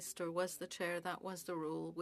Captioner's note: speaking French